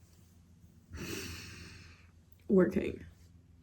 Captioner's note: inhales deeply